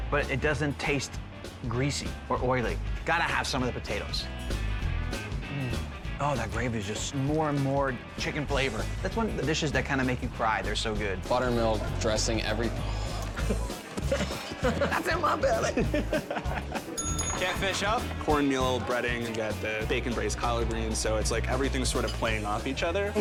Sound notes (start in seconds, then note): 12.7 sighs; 12.9 John laughs; 16.3 laughs; 16.9 bell dings